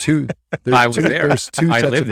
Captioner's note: laughs